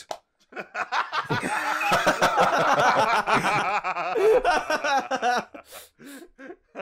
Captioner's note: laughter